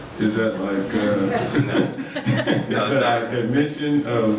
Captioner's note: multiple people laughing